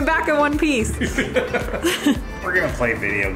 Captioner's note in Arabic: يضحك